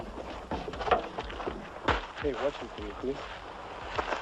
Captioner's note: Meshugi mumbles